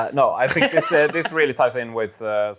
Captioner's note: laughs